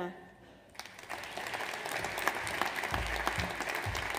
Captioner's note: audience applauds